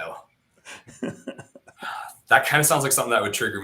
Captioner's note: laughing